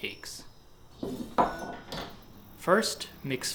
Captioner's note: kitchenware clinking